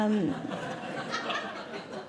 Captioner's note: audience Laughing